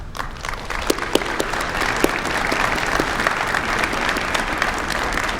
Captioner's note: applause